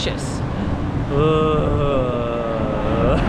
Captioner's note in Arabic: آهات